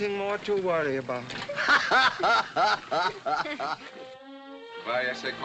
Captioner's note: laughter; in spanish